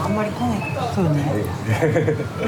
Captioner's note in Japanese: 苦笑